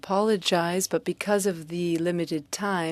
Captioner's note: speaking french